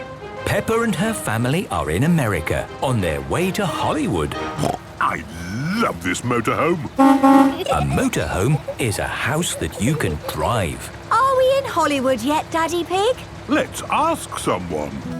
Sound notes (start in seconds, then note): 6.9 honking